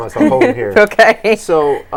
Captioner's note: laughing